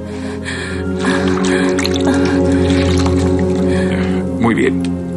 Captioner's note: water splashing